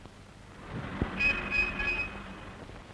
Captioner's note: traffic noise